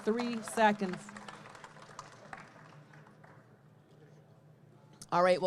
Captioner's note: audience clapping